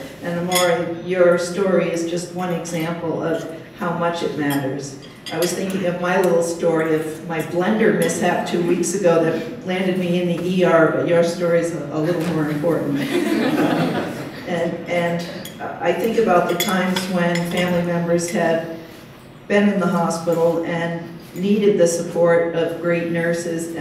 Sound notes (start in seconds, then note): 13.0 laughter